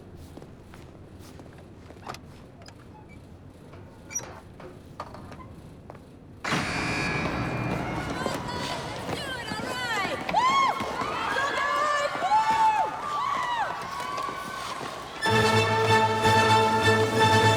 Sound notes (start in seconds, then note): 6.4 buzzer ringing; 10.0 cheering